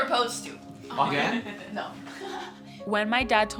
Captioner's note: laughter